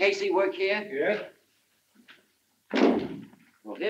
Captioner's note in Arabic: يُغلق الباب بقوة